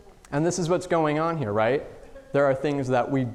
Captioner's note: none